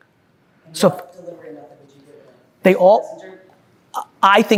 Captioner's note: faintly speaking